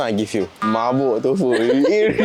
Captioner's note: drunk or tipsy